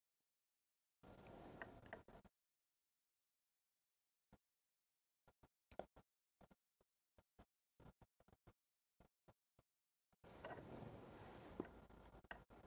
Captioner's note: silence